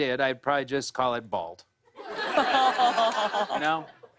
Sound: laughter

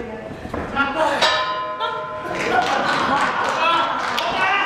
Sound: gong

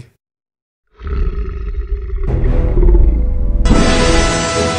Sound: basilisk Growls

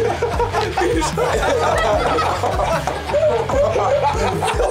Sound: laughter

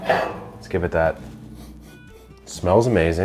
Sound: sniffing

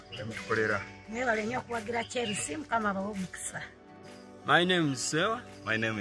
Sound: speaking in foreign language

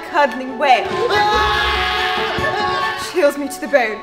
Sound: dramatic screaming

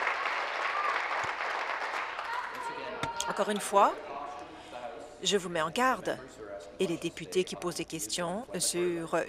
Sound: applause

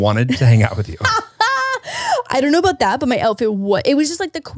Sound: laughs

